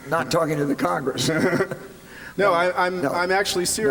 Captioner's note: chuckles